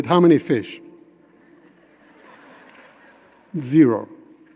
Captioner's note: audience chuckling